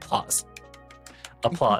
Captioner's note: clicking